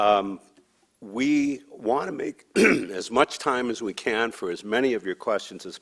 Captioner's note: clears throat